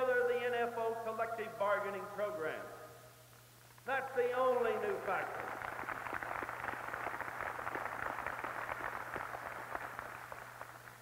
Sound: applause

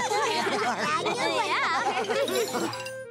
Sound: all laugh

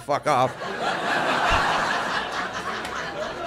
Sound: laughter

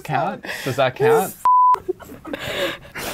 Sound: beep; laughing

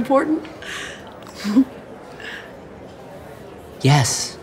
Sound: giggles

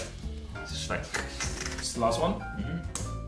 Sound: keys clicking; imitating clicking

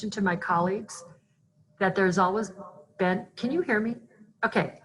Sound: distorted sound

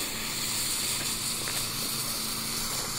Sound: hissing

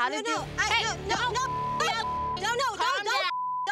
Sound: beep

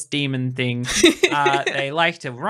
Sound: laughing

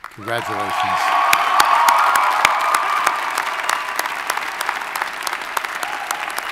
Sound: audience cheers and applauds

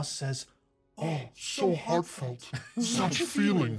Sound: speaker chuckles; laughs

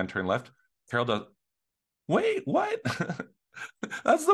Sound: chuckling

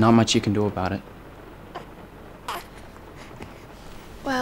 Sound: Brady coos

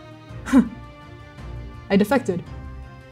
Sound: mirthless chuckle

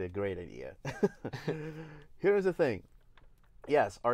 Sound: laughs

